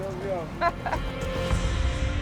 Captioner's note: laughs